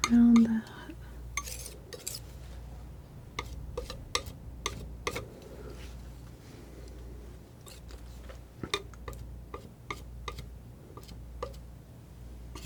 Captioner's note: tapping